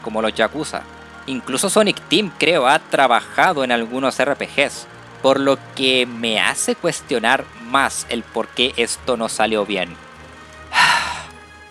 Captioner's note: sigh